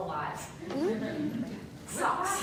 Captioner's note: laughter